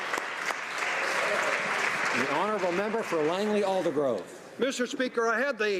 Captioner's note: applause